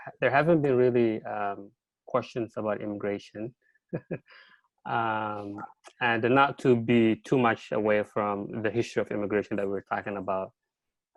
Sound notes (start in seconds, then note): 3.9 chuckles